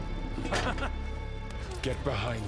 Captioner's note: laughs